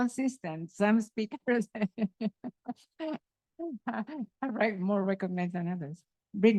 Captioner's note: laughs